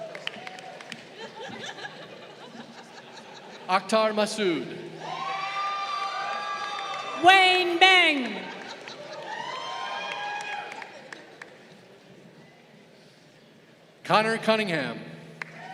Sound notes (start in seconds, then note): 0.0 crowd applauding; 4.9 crowd cheering; 15.4 crowd cheering